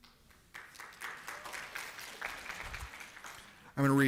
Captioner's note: applause